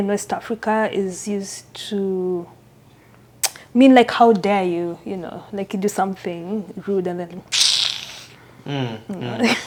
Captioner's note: mouth sound